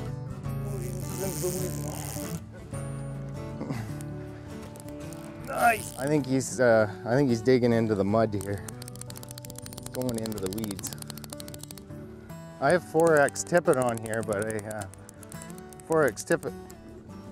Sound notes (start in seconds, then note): 0.2 slow guitar music; 11.1 fishing rod clicks